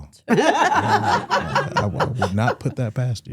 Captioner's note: hosts laughing